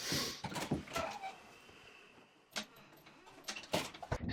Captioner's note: door opens; door shuts